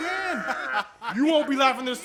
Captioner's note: laughing continues